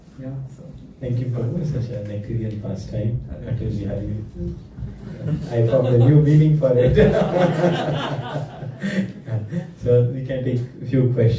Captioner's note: laughter